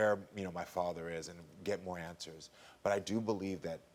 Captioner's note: none